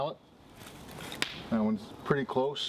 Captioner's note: loud crack